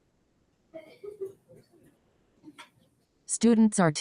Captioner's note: people chatter indistinctly